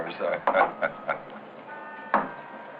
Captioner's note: laughs